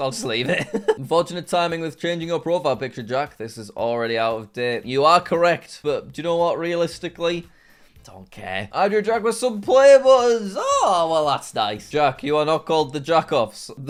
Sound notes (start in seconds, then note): 0.1 chuckles